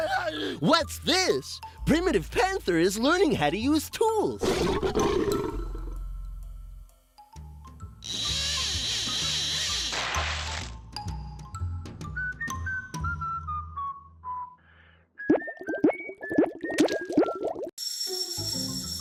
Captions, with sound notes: WHAT'S THIS? PRIMITIVE PANTHER IS LEARNING HOW TO USE TOOLS. (roaring) (reel whirring) (whistling) (reel whirring)